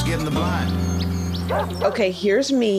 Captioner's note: nature and dog barks